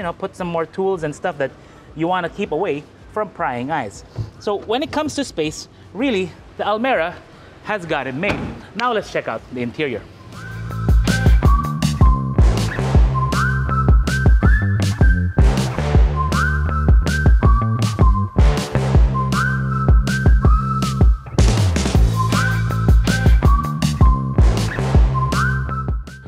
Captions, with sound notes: put some more tools and stuff that you wanna keep away from prying eyes. So when it comes to space, really, the Almera has got it made. [door closes] So when it comes to space, really, the Almera has got it made. So when it comes to space, really, the Almera has got it made. Now, let's check out the interior. [upbeat music]